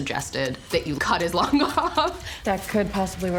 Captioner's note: laughing